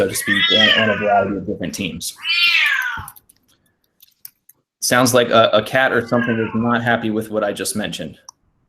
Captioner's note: meow; meow